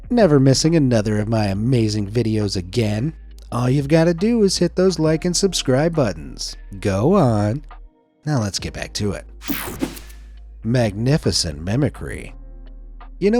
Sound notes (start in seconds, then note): 9.4 page whooshing; 9.5 page swishing